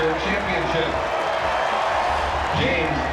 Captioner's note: crowd cheering